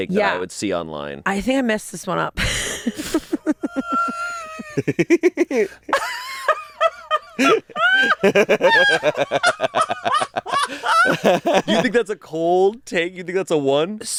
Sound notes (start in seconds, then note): 3.6 laughs; 4.3 giggling